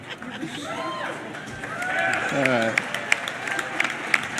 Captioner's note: cheering